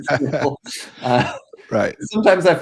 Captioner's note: both laughing